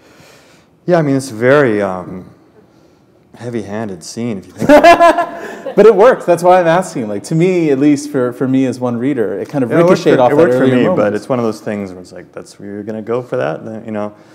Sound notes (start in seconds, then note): 4.6 laughter